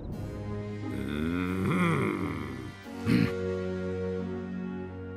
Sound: growls

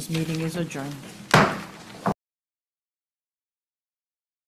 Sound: gavel bangs

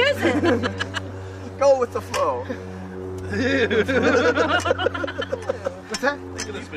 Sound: laughter

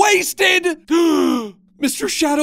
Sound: Max gasps

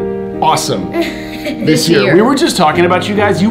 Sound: laughing

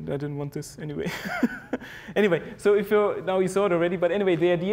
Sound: laugh

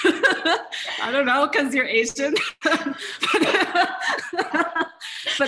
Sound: continued laughter

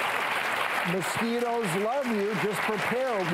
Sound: applause

